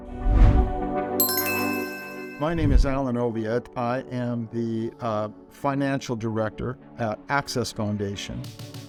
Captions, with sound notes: (upbeat music) (bell chiming) My name is Alan Oviatt. I am the Financial Director at Access Foundation